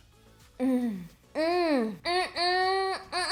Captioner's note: moaning